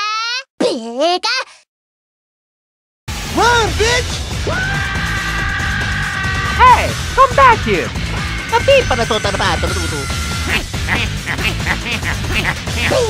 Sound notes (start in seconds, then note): 4.4 both screaming; 8.8 italian gibberish; 10.4 wahahoo and Wahahee noises